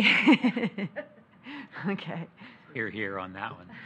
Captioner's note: laughs